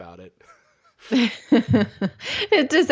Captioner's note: laughter